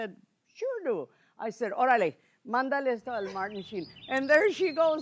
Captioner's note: speaking Spanish